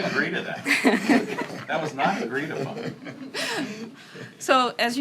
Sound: laughter

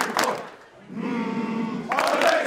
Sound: humming

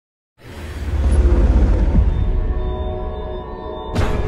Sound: eerie sound

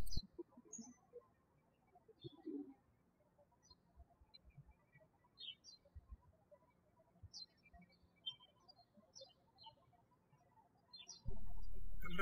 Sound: birds chirping

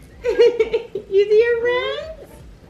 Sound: laughs

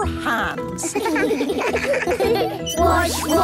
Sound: children giggling

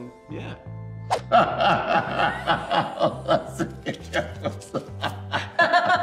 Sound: laugh

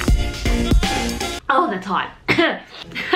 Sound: cough

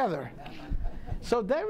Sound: audience laughing

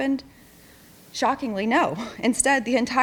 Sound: huffs

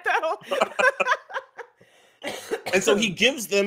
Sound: laughs

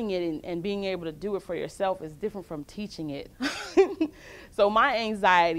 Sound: laughs

